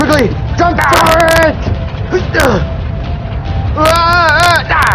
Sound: men yawping and grunting

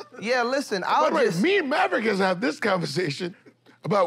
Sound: chuckles

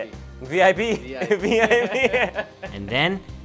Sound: laughs

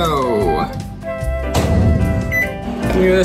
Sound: door closing; beep

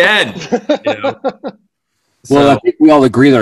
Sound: laughing

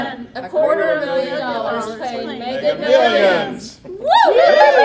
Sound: cheers

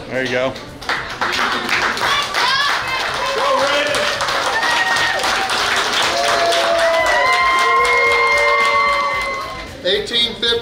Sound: clapping

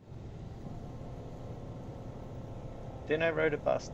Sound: hum of old bus engine and traffic noise

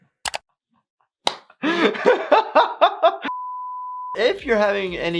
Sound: laughing

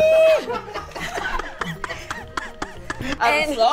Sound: group laughing

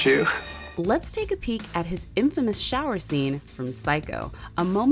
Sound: voiceover

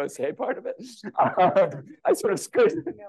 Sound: laughter

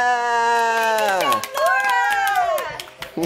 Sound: applause

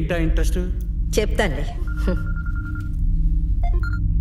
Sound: cell phone rings

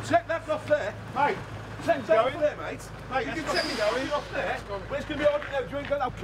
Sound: arguing

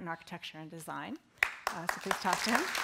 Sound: applause

